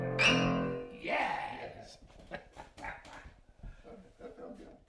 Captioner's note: laughs